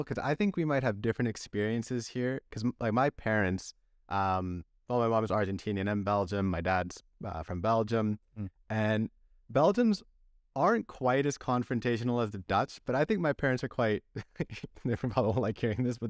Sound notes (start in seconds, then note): 14.1 laughter